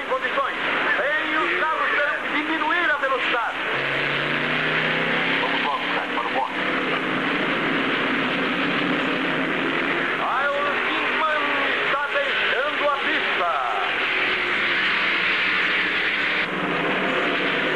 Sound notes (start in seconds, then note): 3.3 man On Radio